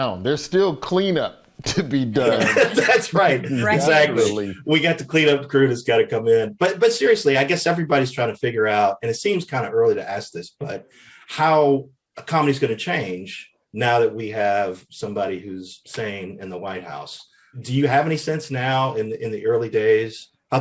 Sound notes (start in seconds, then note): 2.0 panelists laughing